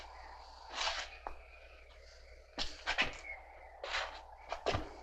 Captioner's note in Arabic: none